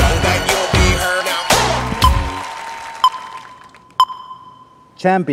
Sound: beeping

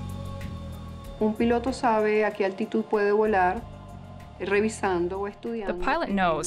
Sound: speaking in foreign language

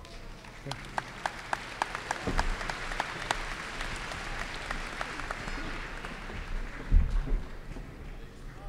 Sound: applause

